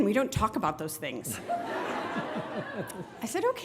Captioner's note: graduates laughing